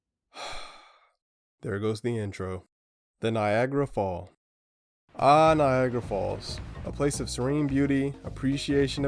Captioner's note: sighs